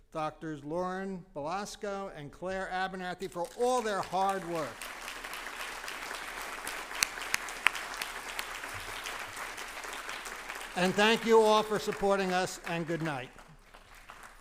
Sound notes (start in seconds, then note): 3.5 applause